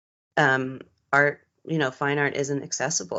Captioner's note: none